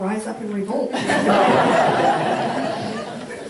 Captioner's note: audience laughing